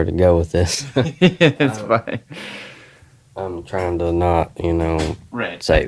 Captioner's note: laughs